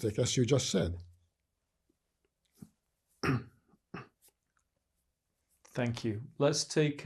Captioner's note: pauses 4 seconds